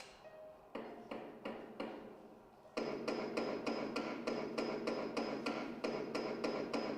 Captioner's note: hammering